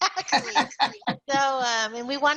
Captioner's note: laughter